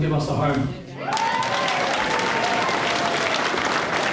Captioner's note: crowd applauding